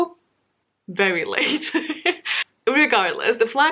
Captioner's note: laughs